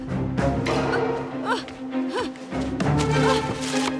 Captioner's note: Freddie struggling; tense music